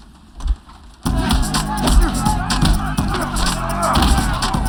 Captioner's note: grunting, cheering